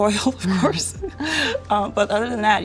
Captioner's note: chucking